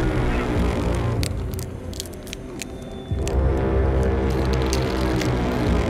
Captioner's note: tightening Noises